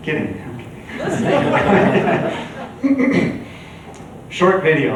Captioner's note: chuckles